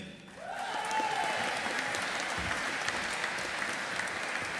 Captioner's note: audience applauding